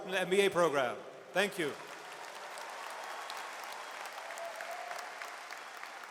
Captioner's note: audience cheers and applauds